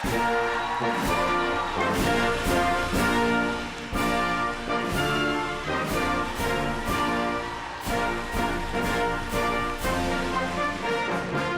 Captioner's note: applause